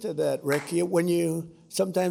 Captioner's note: applause